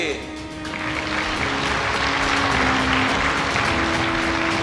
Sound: clapping

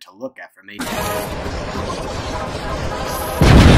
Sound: sped up electricity noises; boom

